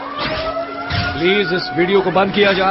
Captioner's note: siren wailing